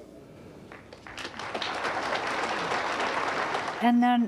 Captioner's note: audience clapping